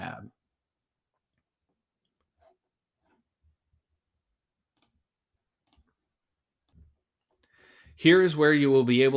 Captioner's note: background noise using the mouse